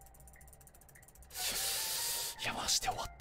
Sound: takes In a deep breath

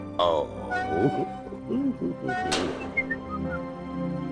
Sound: kissing; mailbox closing; whistling

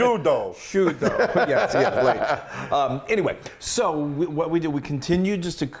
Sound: laugh

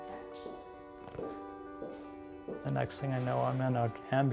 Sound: footsteps

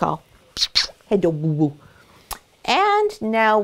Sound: lips smacking

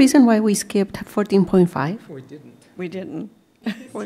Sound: laughter

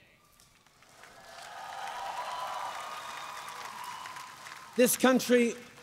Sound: cheers & applause

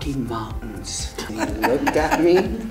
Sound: laughs

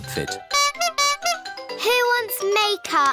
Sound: toots horn

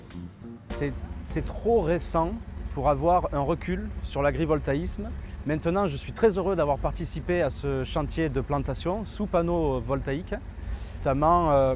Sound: voiceover

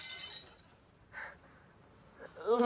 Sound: glass breaks

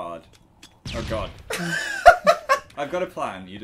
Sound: laughs

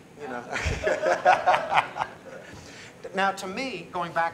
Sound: laughter

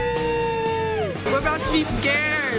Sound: cheers

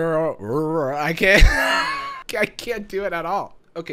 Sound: laughs

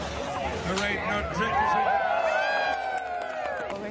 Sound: cheering

